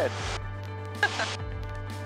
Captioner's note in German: lacht